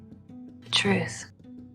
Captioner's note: voiceover